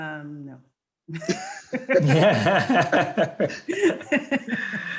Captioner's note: panelists laughing